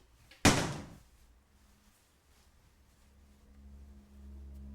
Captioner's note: cabinet slamming; light eerie music